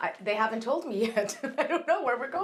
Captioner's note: laughs